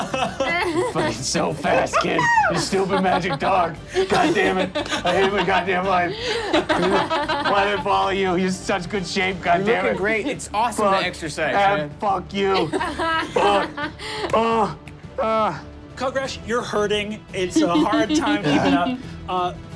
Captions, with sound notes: - Fucking so fast kid. Your stupid magic dog, goddammit. I hate my goddamn life. (laughing) Why'd I follow you? You're in such good shape, goddammit. - Looking great, it's awesome to exercise, man. - Fuck you! (laughing) (groans) - Kugrash, you're hurting. It's a hard time keeping up.